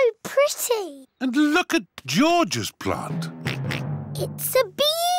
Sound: oinks

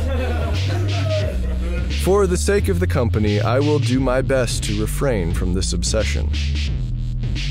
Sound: laugh Track

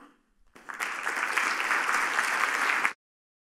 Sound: applause

